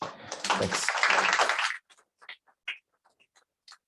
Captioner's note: applause